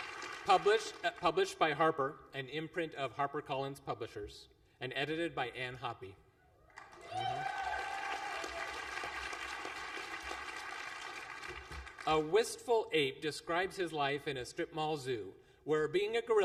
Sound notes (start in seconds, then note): 6.7 applause